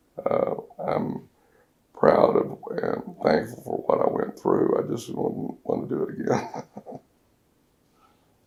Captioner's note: laughs